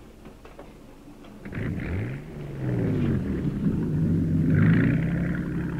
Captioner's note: boat engine rumbling